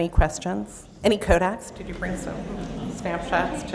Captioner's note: laughter